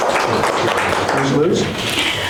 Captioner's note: applause